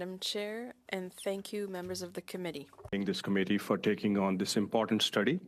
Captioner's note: speaking French